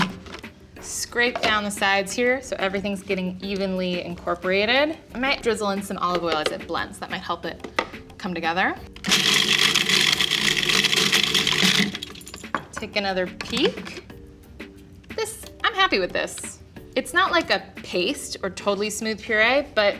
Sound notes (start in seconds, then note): 9.0 food processor chops